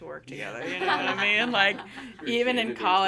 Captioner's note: everyone laughing